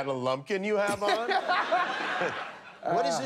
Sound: laughter

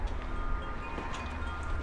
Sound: windchimes

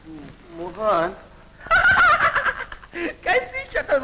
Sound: laughing

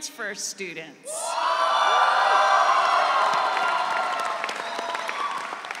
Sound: audience cheering

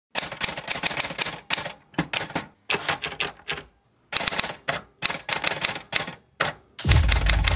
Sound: typewriter sounds

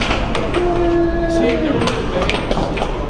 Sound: air hockey puck rattling; speaks faintly

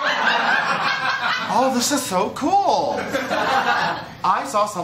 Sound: laughter; laughter

